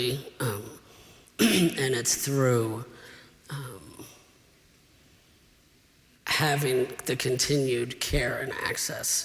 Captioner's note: clears throat